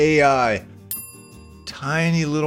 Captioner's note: bell chiming